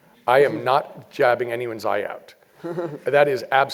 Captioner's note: laugh